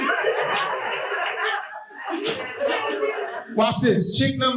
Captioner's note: audience laughing